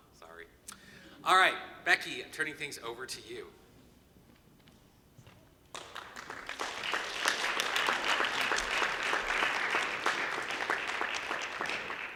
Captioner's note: applause